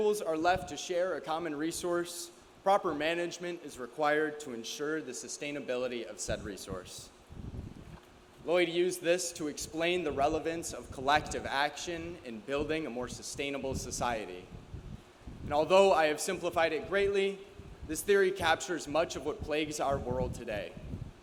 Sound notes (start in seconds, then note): none